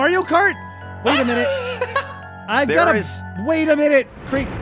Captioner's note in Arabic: يضحك